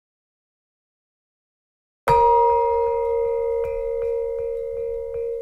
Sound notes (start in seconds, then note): 2.1 bell rings